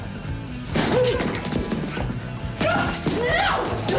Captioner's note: grunts